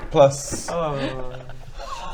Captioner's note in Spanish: suspiro